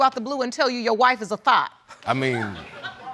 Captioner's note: audience laughing